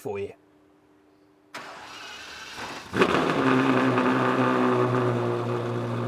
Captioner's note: engine starts up and revs